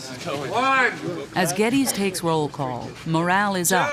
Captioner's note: voiceover